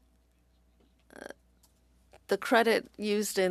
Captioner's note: speaking French